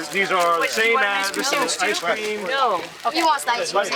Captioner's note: indistinct chatter